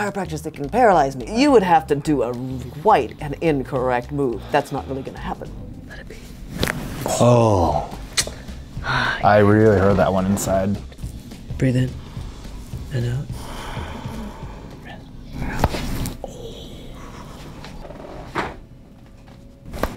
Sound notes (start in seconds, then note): 7.0 bones cracking; 13.3 breathing; 15.7 bones cracking